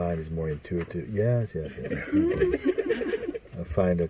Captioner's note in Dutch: gelach